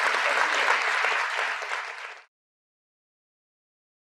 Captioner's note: applause